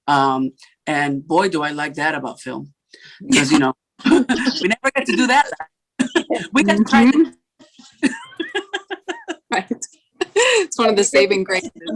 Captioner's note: laughter